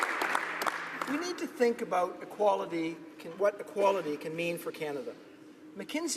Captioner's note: applause